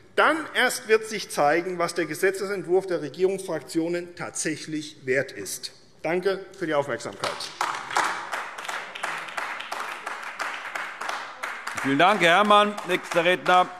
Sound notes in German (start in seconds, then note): 7.2 Beifall AfD